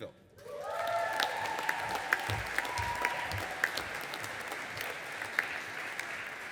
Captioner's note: audience applauding and cheering